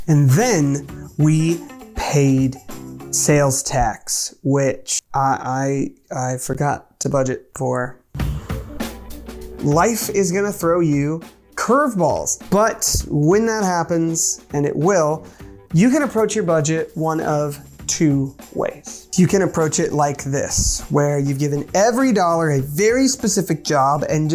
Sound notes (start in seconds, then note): 8.1 sighing; 8.5 upbeat music